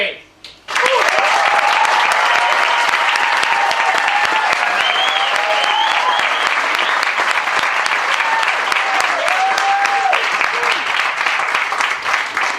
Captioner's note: applause and cheering